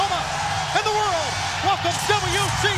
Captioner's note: crowd cheering